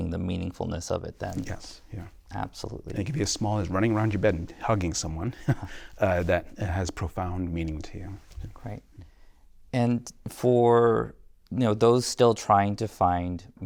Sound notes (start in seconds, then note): 5.3 laughter